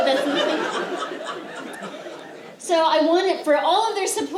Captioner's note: laughter